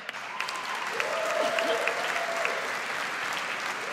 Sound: audience applauds

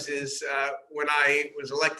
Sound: laughing

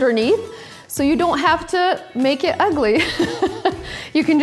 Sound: laughs

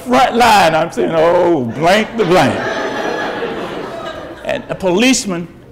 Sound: audience laughs

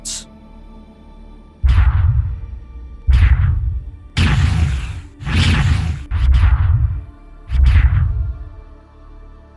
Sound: chronoptic energy sounds

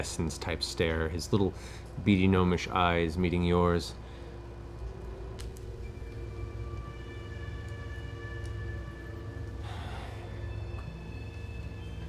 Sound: sighs

